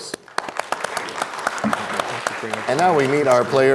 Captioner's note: applause